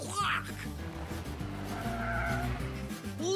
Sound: tires screeching

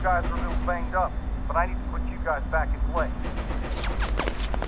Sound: guns firing

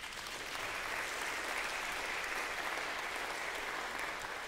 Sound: congregation applauds

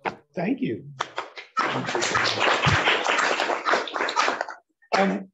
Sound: applause

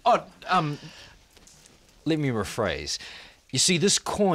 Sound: none

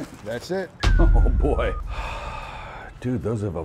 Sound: text thuds

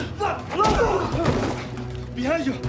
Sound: criminals groaning

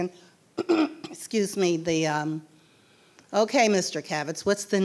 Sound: coughing

